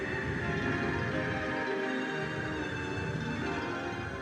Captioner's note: wind howling